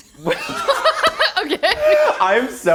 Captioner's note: laughs